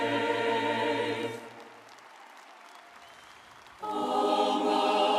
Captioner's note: audience applauding